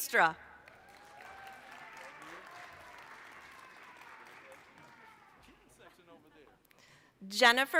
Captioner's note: applause